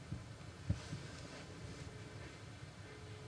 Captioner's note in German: Freizeichen